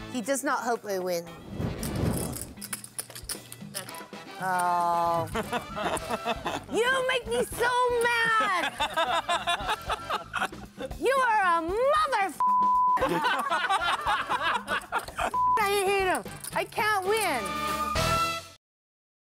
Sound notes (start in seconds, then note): 5.0 laughing; 8.2 laughing; 14.1 laughing